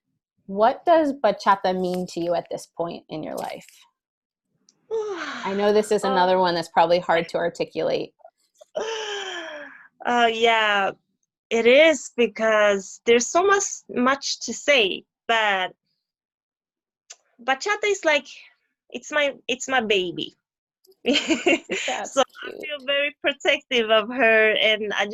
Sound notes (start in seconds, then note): 4.9 sighs deeply